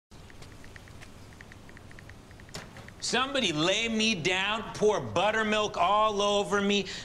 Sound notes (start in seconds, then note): 0.2 phone clicking